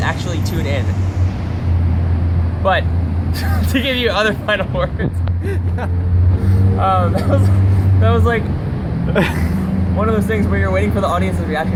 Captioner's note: much laughter